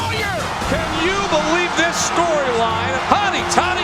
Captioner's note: voiceover